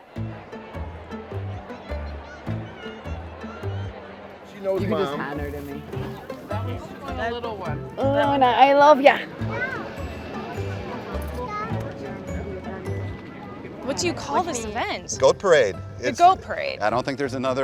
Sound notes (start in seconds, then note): 0.2 whimsical music; 10.6 crowd murmuring